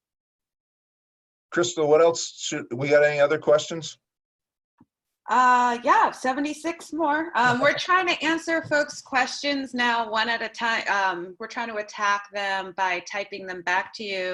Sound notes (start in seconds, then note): 6.1 laughter